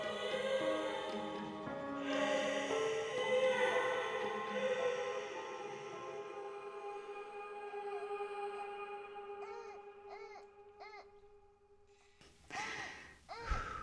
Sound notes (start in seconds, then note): 9.3 baby cooing